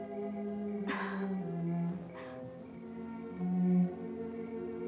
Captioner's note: Delia chuckles